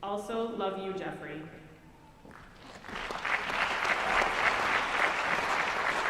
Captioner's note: applause